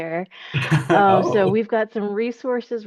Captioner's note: chuckles